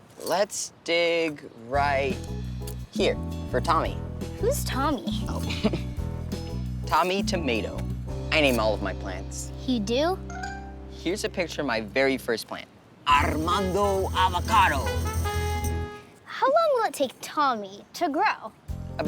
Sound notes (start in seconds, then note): 5.3 chuckles; 14.7 festive music